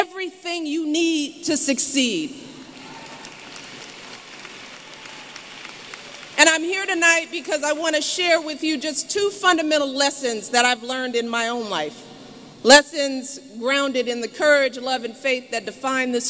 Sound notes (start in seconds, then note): 6.6 applause